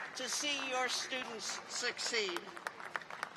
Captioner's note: applause